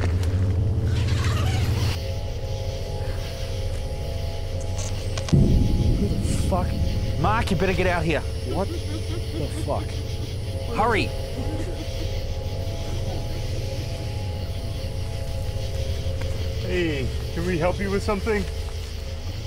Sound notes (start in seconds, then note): 0.1 tent zipper unzips; 4.8 camera glitch, deep stinger; 8.1 creepy laughing; 8.1 creepy laughing continues; 13.9 Sound of Mark exiting tent